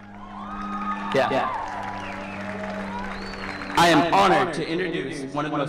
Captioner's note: cheering